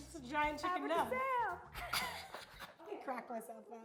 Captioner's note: laughing